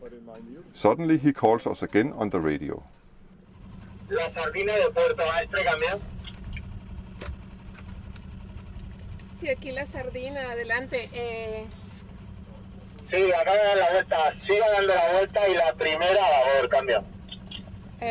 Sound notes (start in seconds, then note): 3.6 Talk on VHF radio